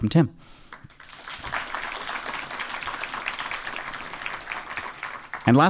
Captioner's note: audience applauding